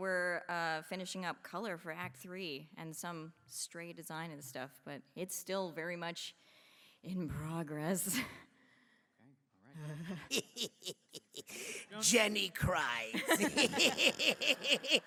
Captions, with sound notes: And we’re finishing up color for act three and some stray design and stuff. But it’s still very much in progress. [laughs] Jenny cries! [laughs]